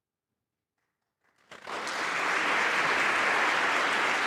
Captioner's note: applause